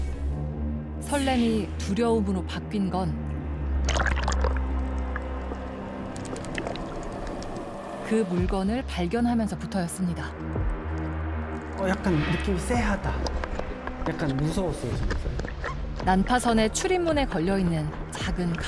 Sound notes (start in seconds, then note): 5.0 voiceover